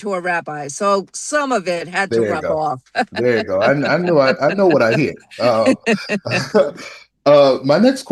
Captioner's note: laughter